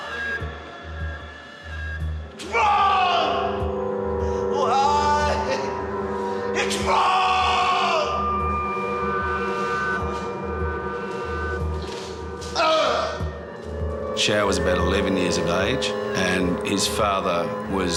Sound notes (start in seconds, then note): 12.5 grunts